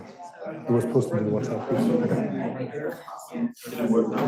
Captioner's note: speaking faintly